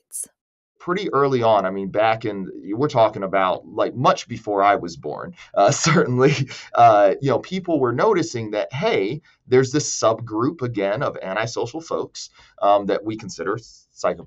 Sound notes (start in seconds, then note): 5.1 laughs